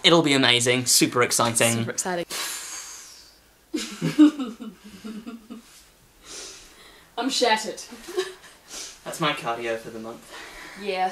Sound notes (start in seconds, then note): 2.3 breathes out heavily; 3.7 both giggling